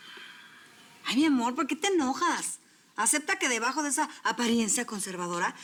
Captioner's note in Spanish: él exhala